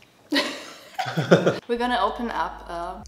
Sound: both laughing

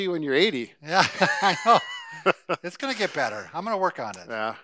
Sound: laughs

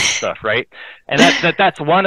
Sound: laughing

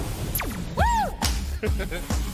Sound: laughs

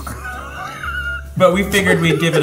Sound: laughs

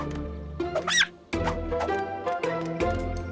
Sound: squeaking

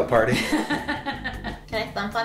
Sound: laughing

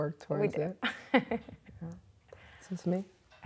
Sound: laughs

